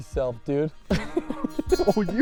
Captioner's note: laughing